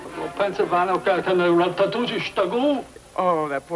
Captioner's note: speaking in foreign language